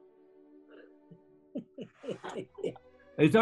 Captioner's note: chuckling